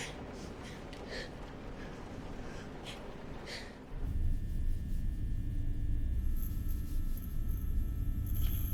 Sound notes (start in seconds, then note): 4.1 discomforting rumble